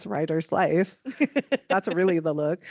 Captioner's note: laughing